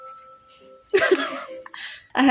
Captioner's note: laugh